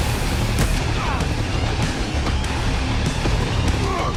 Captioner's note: grunts